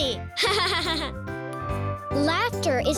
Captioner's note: laughing